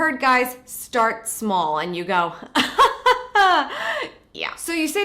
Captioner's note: laughs